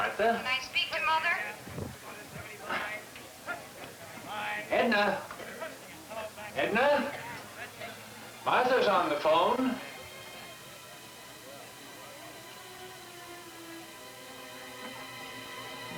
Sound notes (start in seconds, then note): 1.6 exhales; 12.3 suspenseful music